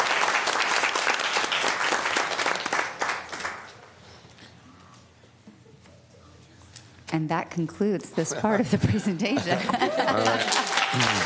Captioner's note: applause